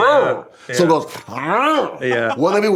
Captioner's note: imitates growling bass